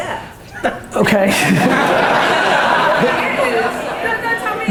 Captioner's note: audience laughter